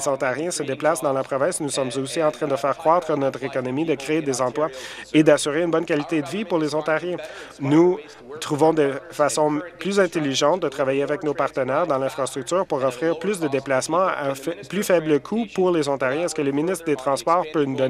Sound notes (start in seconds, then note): none